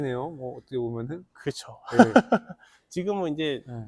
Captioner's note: laughs